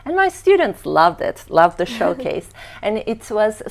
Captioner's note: laughing